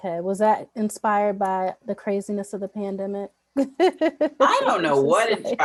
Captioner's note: laughs